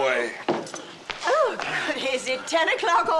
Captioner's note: exclaiming